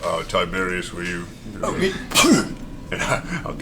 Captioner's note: fire breath noise